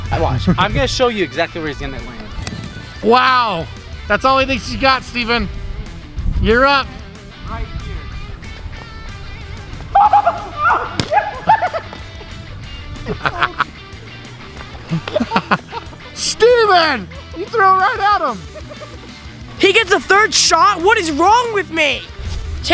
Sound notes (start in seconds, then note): 9.9 laughs